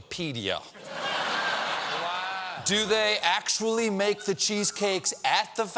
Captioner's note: laughter